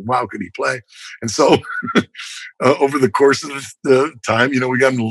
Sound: laughter

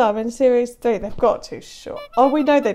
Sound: clown honk

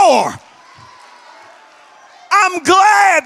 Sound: congregation shouts

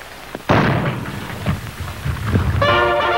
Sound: cannon booms; bright lively music

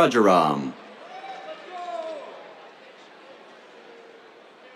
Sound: cheers

